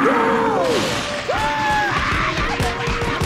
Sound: screaming

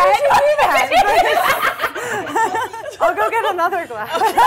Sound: laughing

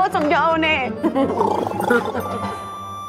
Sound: laughing

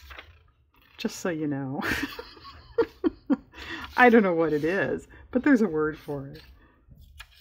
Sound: laughs

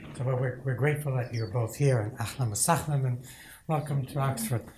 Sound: speaks in foreign language

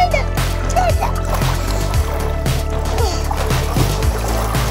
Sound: water splashes

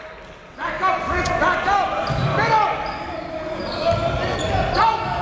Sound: cheering and yelling

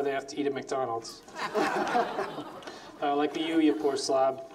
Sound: laughs

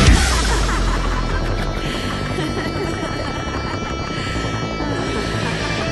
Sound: singer laughing; soft music

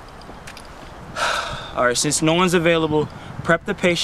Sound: sighs

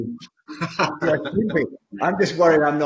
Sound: laughs

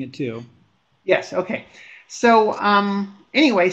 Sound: voiceover

